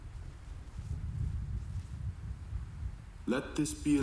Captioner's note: thunder rolling